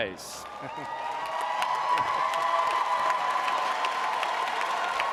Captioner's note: audience cheering; audience applauding